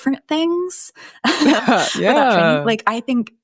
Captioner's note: chuckles